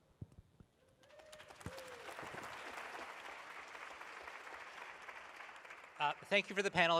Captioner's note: appaluse